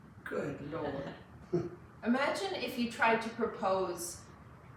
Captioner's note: laughs